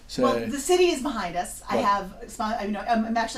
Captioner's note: voiceover